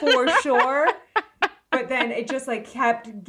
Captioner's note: laughing